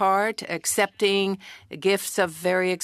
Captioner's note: speaking French